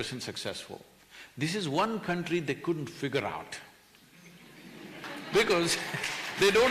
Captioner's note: laughter/Applause